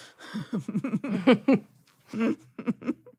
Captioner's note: laughs